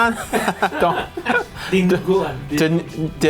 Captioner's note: laughs